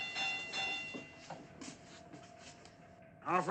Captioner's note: bell rings